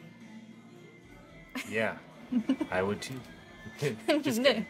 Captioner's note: Keely chuckles